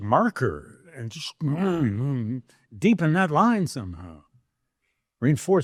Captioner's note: grunts